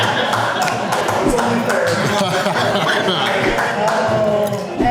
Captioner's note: crowd laughter; crowd laughing and cheering